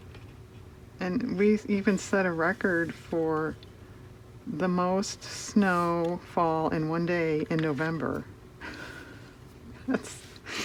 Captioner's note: laughs